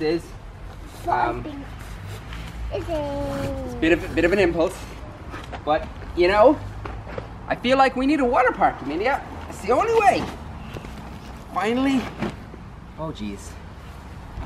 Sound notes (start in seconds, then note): none